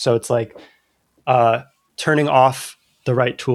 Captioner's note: uh